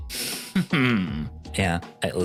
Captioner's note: smug sound